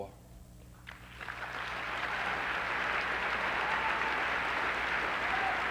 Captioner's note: applause